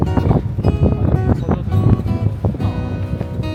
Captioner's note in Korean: 바람바람바람소리